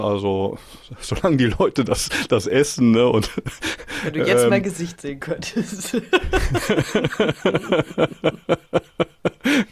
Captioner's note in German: gelächter